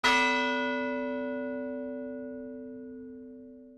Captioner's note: bell chimes